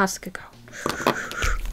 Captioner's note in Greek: Γρήγορη εκπνοή